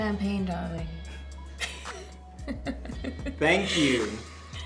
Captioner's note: both chuckling